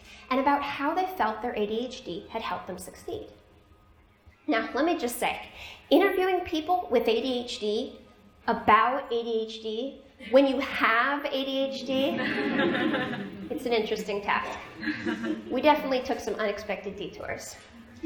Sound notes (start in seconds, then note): 12.0 laughter